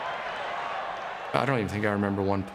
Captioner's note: crowd cheering